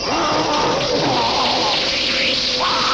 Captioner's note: fizzling